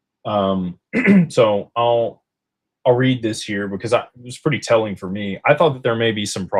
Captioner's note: clears throat